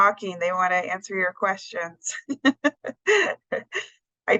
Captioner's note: laughs